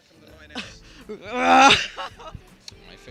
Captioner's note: interviewee growls and laughs